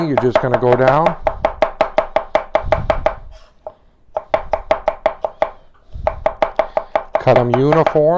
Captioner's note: chop